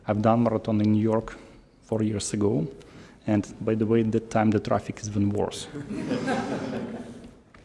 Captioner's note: laughter